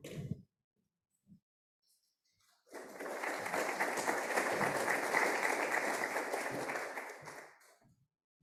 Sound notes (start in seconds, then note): 2.7 audience applauding